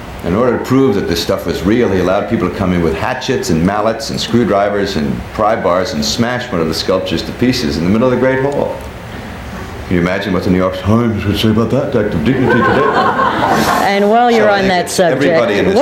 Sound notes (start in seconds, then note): 12.2 people laughing